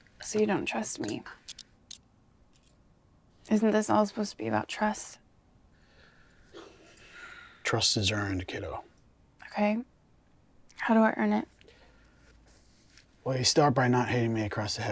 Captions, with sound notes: So you don't trust me. [handcuff locking] Isn't this all supposed to be about trust? [takes a deep breath] Trust is earned, kiddo. OK, how do I earn it? Well, you start by not hitting me across the head